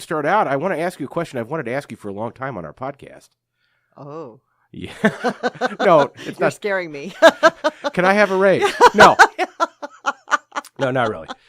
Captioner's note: laughs uproariously